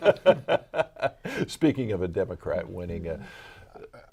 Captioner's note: laughing